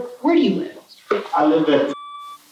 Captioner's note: beep